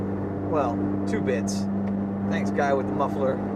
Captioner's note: car muffler rumbles